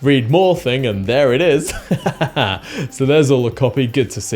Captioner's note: laughs